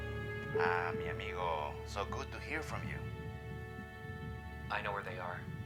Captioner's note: on phone